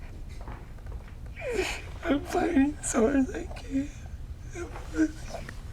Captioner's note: crying